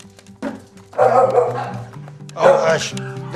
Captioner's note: dogs barking